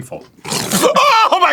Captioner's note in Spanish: resopla como jabalí